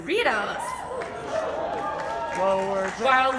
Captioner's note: audience cheers